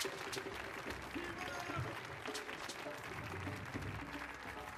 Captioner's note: man exclaiming